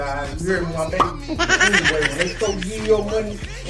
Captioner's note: face laughs